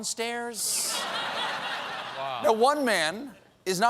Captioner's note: laughter